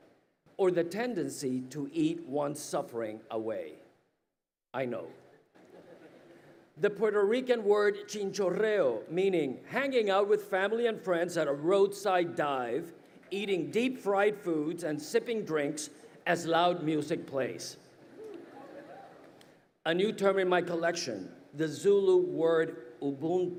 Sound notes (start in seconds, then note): 5.5 audience laughs